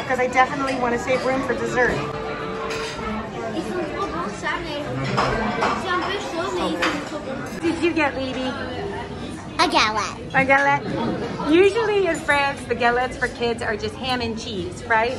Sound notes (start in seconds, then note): 3.3 little girl speaking foreign language